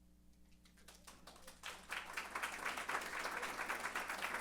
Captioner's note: applause